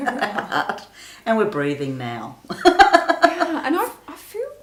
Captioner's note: laughs